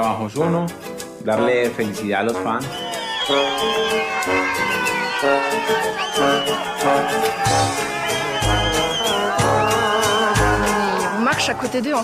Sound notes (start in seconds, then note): 6.0 crowd cheering